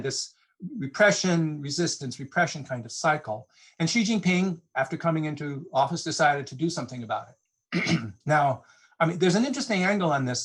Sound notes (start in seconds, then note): 7.7 clears throat